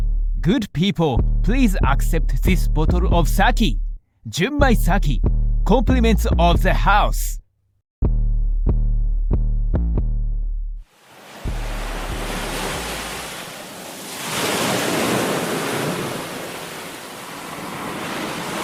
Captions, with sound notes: - Good people, please accept this bottle of sake. Junmai sake, compliments of the house. (waves crashing)